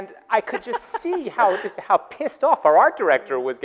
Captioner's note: laughing